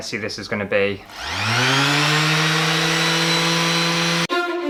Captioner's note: power Sander Revving; dramatic Music